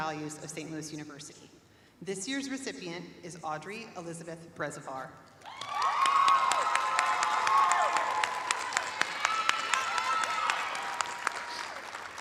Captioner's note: cheers and applause